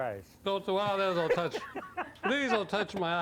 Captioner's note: laughing